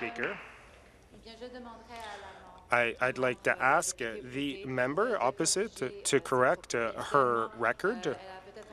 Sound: applause

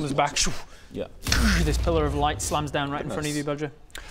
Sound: dooorsh

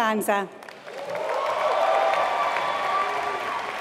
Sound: applause

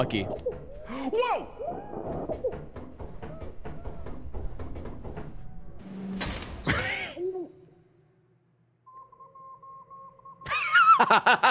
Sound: laughs

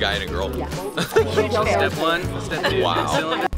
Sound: laughs

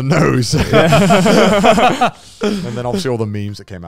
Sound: all laughing

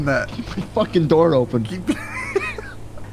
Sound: laughing

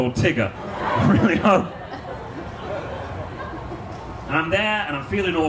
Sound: audience laughs

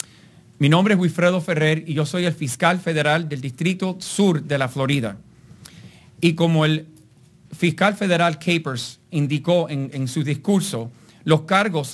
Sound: speaking in Spanish

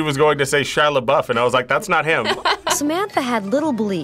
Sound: laughs

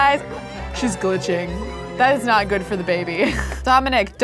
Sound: laughs

